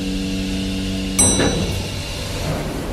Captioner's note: elevator chime